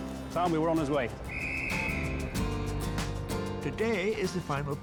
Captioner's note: whistle tweeting